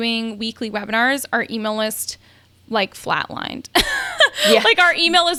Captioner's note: laughs